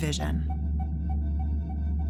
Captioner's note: machine beeping